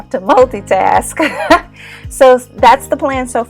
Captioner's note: laughing